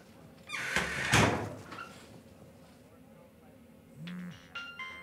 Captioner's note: door squeaking and clattering; phone ringing